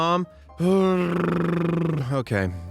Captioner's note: blows a raspberry